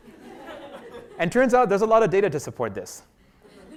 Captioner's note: laugh; laugh